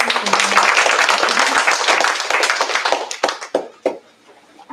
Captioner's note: applause